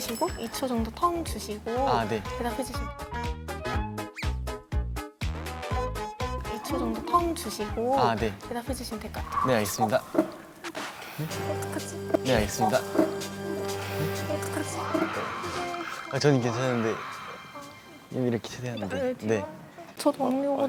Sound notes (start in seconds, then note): 9.6 Scratch